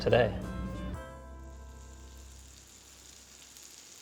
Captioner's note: butter sizzles